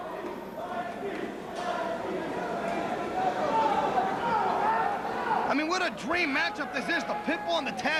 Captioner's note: crowd chatter